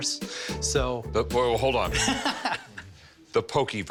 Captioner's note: laughs